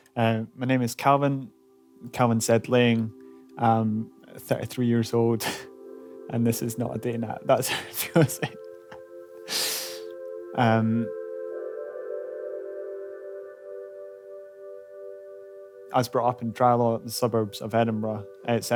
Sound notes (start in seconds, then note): 7.6 laughing